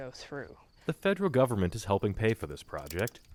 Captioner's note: voice-over